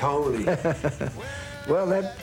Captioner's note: laughs